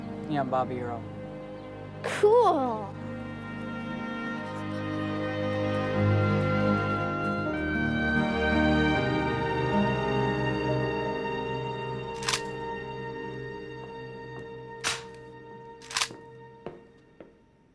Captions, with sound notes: - Yeah, I'm Bobby Earl. - Cool! (hopeful music) (gun clicks)